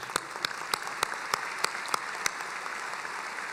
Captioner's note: applauding